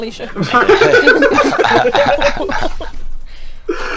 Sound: hahahahhahahha

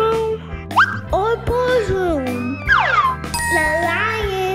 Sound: bell dinging

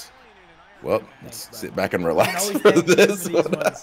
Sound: laugh

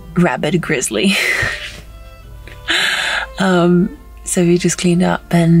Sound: chuckles

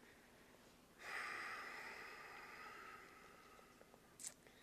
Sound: Holsten sighs

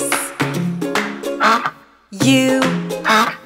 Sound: duck quacks

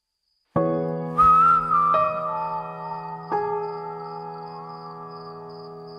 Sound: whistling Begin

